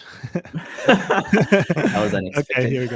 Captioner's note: both laughing